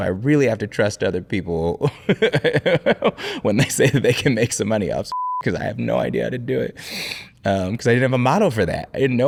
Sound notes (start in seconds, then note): 2.9 laughing; 5.1 beeping